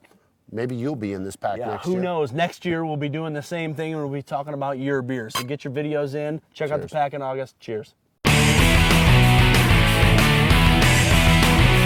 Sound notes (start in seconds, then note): 5.3 glasses clink; 8.2 energetic music